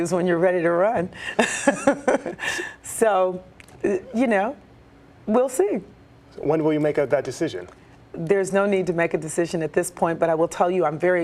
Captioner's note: laughter